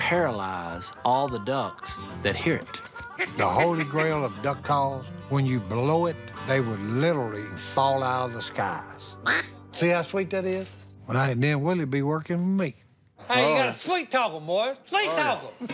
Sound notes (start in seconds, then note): 9.2 duck call quacking